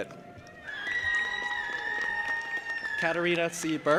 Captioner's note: audience applauding and cheering